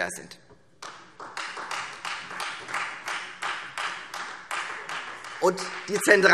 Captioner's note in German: Beifall Freie Demokraten